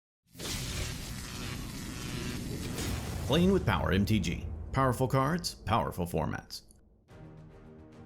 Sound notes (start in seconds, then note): 0.3 electricity sizzles